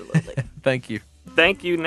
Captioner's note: chuckling